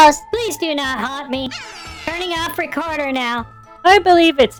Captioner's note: otter noise